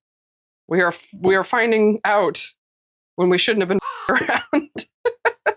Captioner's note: caw